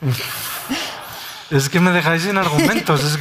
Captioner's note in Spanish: risas